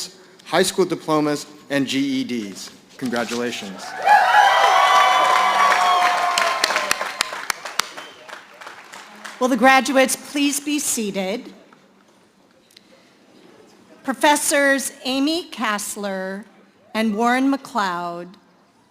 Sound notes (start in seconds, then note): 7.0 cheering and Applause